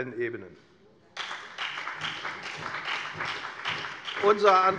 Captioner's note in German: Beifall bei der FDP und der SPD